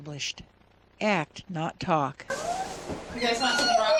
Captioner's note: sound of running water